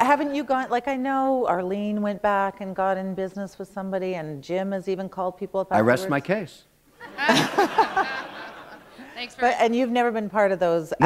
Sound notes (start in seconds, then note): 7.0 laughter